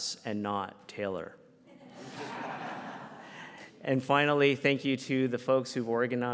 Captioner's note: audience laughs